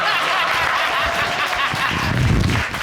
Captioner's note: judge dana laughing